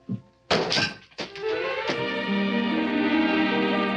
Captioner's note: hat thuds